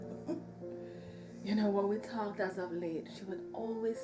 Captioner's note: laughs